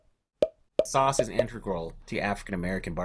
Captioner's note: pop sounds